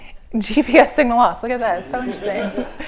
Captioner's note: laughter